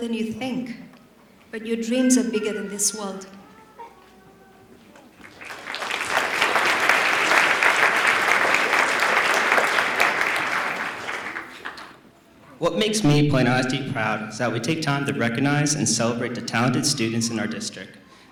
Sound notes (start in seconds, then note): 5.2 applause